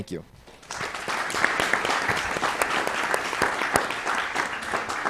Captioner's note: applause